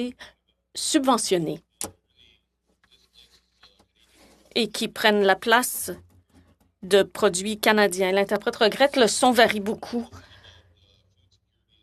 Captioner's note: speaking French